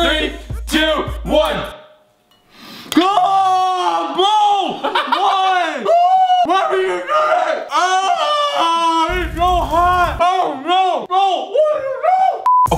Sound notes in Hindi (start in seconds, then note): 3.0 चिल्लाना; 7.9 चिल्लाना